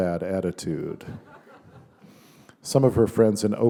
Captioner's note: laughter